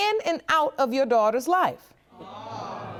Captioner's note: audience exclaims